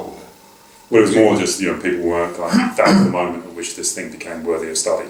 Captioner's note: cough over speaking